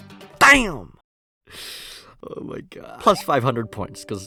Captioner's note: inhales